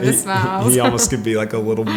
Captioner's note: chuckles